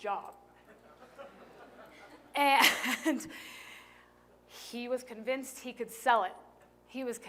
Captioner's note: laughter